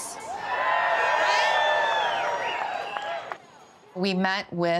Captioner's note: cheers and applause